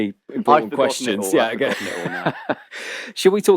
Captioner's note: laughs